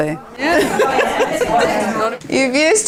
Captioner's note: audience chatter